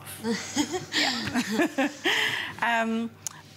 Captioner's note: laughter